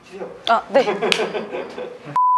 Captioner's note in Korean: 웃음